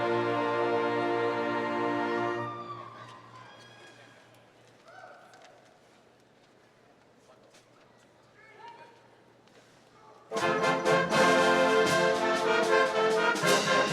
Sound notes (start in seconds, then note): 2.3 audience cheering; 10.3 triumphant band music